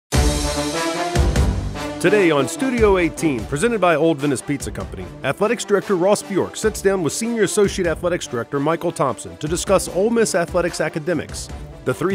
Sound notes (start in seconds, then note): 0.0 energetic music; 2.0 voiceover